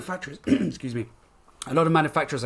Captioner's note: coughs